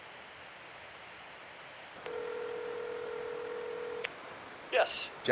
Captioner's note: ringback tone beeping